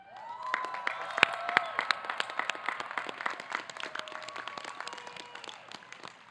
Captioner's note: audience clapping